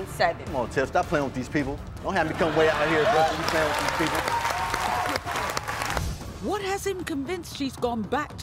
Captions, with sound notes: - Come on Tiff, stop playing with these people. Don't have me come way out here playing with these people. (audience clapping) - What has him convinced she's gone back